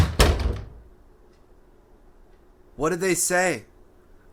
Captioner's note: door closing